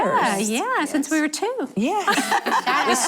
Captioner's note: laughing